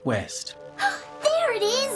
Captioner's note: gasps